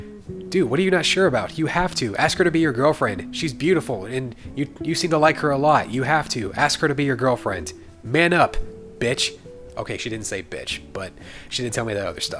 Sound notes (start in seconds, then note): none